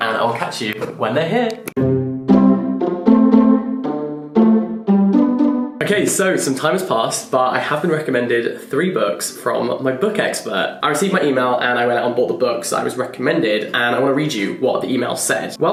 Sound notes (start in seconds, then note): 1.7 upbeat classical music; 1.8 button clicking